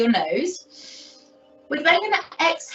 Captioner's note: inhales deeply